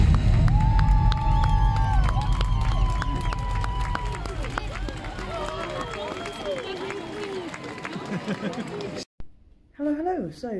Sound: applause, cheering

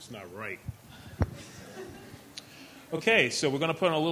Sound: chuckling

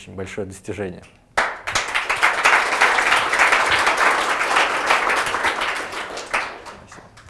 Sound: applause

